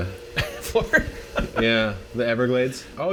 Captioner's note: laughs